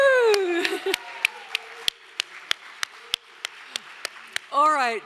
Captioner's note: audience applauds